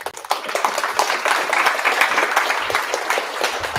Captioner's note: applause